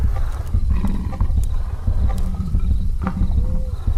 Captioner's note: panther growling